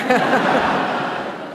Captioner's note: laughter